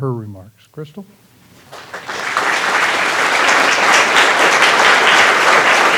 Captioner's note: applause